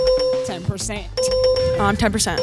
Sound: ding, Ding, Ding

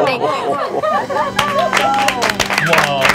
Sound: laughing; clapping; organs playing

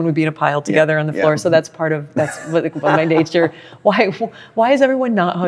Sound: laughs

